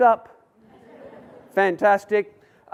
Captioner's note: audience laughs